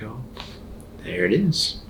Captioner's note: neck cracking